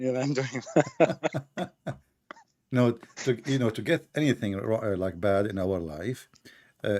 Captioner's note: Ketawa